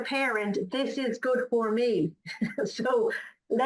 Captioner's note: laughs